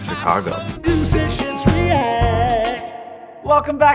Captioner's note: voiceover